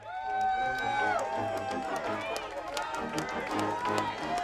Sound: crowd cheering

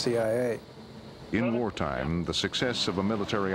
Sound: voiceover

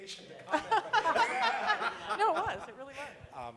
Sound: laughter

